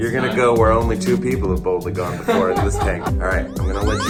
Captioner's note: laughs